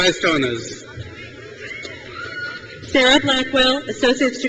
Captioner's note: crowd cheers